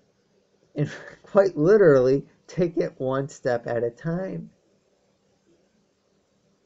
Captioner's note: chuckles